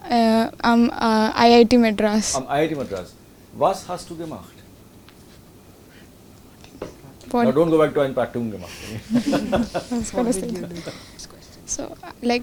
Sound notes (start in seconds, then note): 8.5 students mumbling